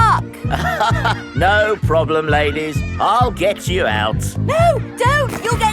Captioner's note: chuckles